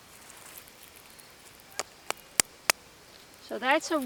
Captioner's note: taps on stone